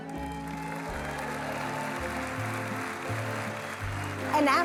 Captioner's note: audience cheering and applause